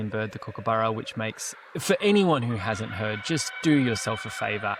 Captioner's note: kookaburra sounds